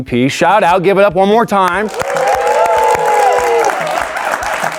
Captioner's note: audience applauding